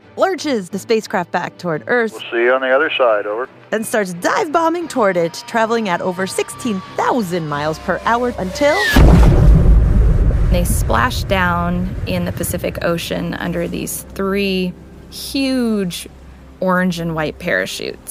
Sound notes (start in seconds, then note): 8.5 boom!